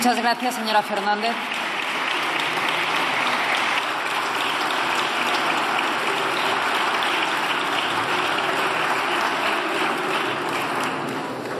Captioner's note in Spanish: Aplausos